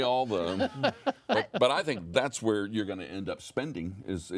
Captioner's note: chuckling